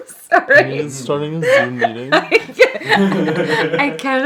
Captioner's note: laughing